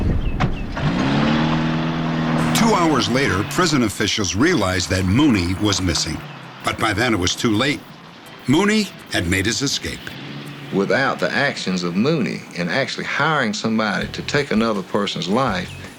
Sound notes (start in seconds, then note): 0.7 car engine whirring